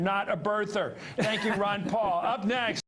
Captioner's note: Ron Paul Laughs